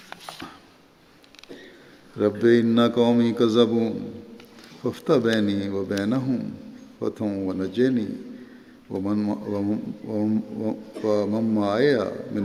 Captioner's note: Arabic